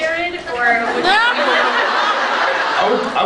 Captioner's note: laughs